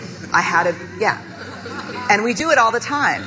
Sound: audience laughing

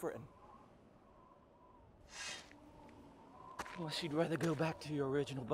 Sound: wind whistles

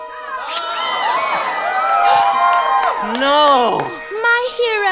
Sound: shrieks; kisses

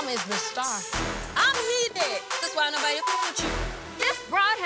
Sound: beep sound

